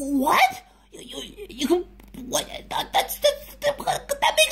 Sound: stammers; stammers more

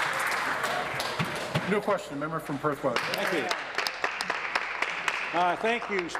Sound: applause

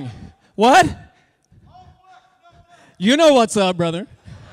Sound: muffled shout

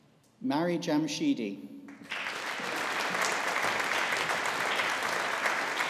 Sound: audience applauding

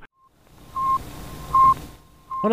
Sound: beeping

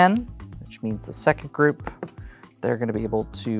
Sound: taps cards

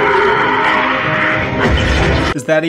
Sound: Skrull roar; Carol roar, mocking the Skull

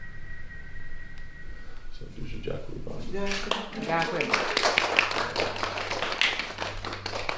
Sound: applause

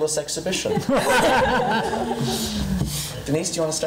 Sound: laughing

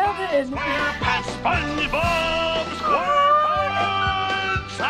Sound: squealing; chuckling; pirate guffawing

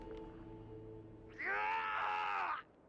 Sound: screaming

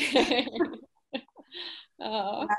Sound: laughing

